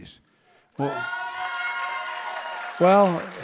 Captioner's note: applause